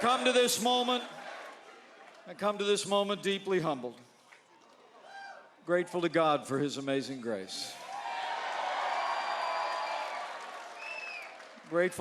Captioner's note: chanting u.s.a